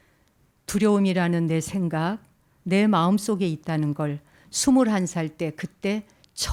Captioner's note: speaking in Korean